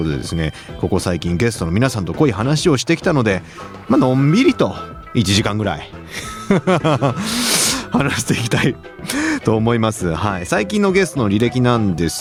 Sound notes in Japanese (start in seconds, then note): 6.0 笑い